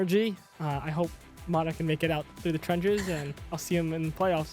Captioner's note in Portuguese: risos